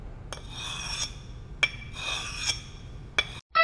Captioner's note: scraping